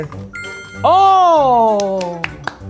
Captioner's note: sparkly chime rings